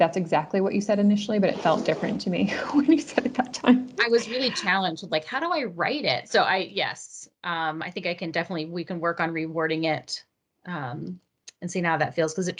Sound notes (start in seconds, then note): 4.2 chuckles